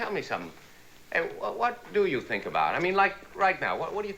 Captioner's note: stammers